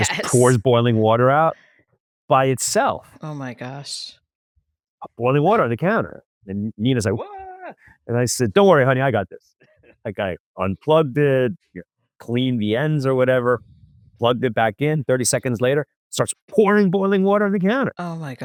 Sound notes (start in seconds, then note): 0.0 laughs; 10.2 laughs